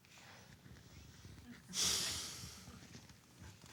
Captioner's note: sigh